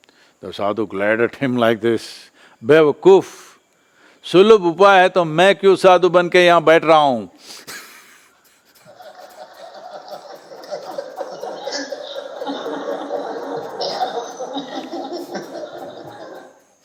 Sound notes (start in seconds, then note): 12.4 laughter